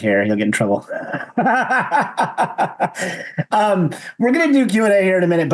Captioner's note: all laugh